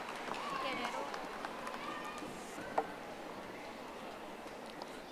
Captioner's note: audience applauding